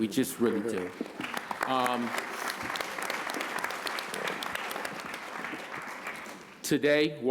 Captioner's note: applause